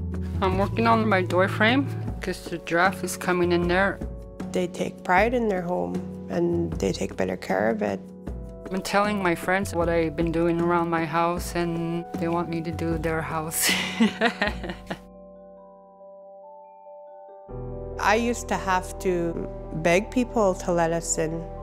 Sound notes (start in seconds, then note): 13.6 laughs